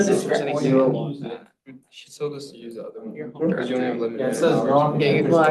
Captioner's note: students chattering